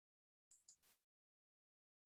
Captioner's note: mouse clicking